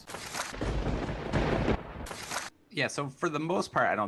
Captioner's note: thunder cracking